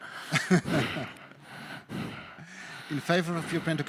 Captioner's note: laughing